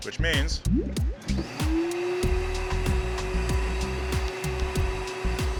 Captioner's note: whirring